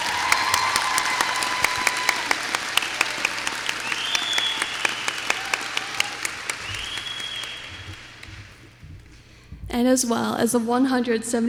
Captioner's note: applause